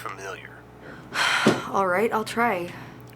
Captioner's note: sighs